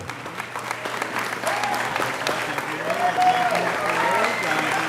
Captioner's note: audience applauding